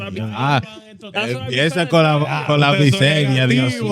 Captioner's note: speaking In Foreign Language